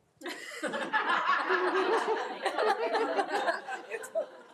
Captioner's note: group laughing